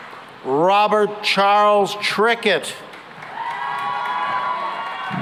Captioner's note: cheering and applause